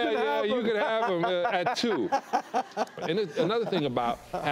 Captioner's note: laughing